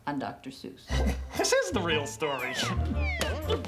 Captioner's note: chuckling